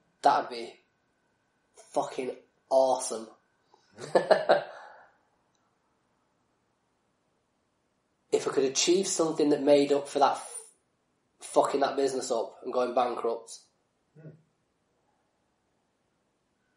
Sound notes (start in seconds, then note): 4.0 laughs